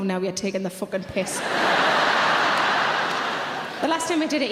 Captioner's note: audience laughing